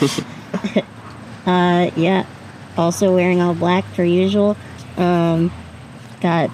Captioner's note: group laughs